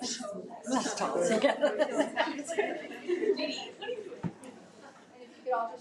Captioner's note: laughs